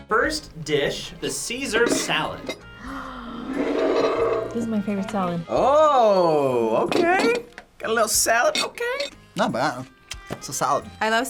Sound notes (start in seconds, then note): 0.0 accordion music; 2.7 gasps